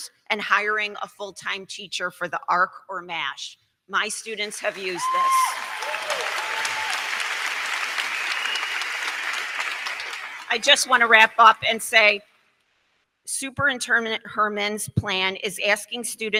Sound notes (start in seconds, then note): 4.4 crowd cheering; 4.4 crowd clapping